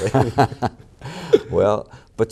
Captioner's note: laughter